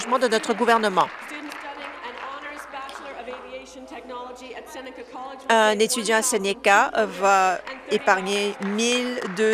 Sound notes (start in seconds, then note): 3.3 applause